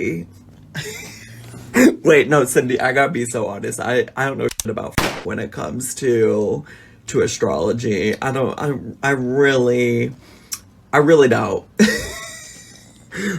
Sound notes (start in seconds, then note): 0.7 laughs; 4.4 click; 5.8 bang